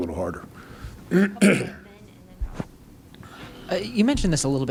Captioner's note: clears throat